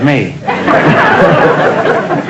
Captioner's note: audience laughter